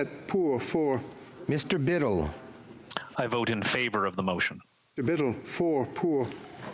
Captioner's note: speaking FRENCH